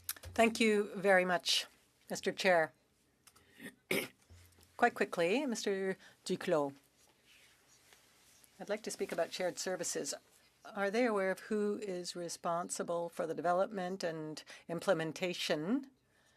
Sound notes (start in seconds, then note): 5.0 speaking French